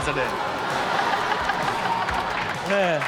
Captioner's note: Chanel and audience laughing